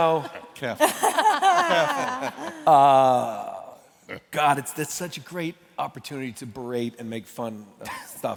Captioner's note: laughter